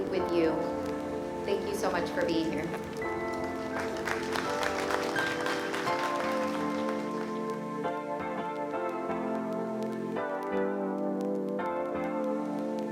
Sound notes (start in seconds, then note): 3.9 applause, music playing